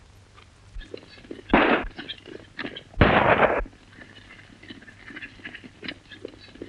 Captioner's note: gun shots